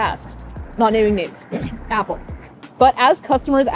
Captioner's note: clears throat